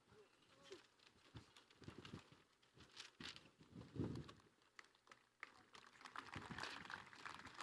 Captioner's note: applause